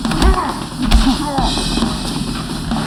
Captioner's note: groans